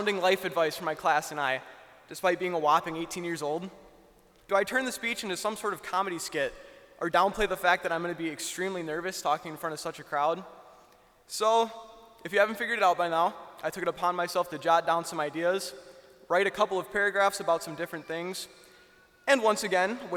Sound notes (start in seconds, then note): none